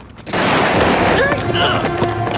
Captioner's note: booming; menacing music